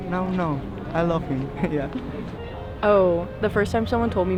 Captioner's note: chuckles